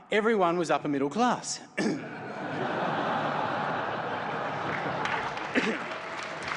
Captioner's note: applause